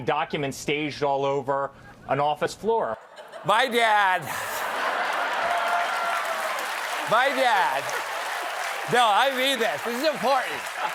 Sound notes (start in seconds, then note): 5.2 cheers and applause